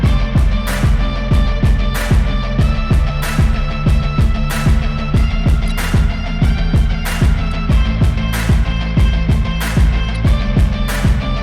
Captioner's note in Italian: Applauso